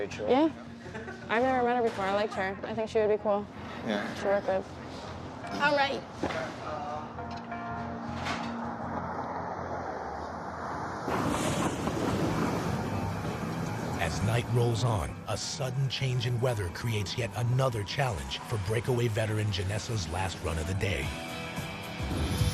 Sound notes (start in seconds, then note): 11.3 thunder crashes